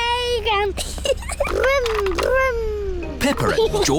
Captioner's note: giggles